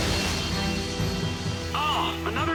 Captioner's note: jets whir